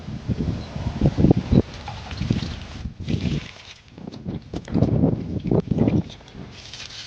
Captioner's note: water splashing